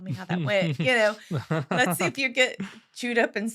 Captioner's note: laughing